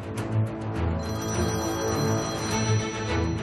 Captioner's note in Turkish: Telefon çalıyor